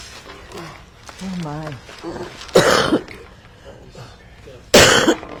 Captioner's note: coughing